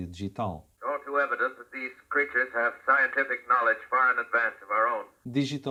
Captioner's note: sound radio broadcast from War of the worlds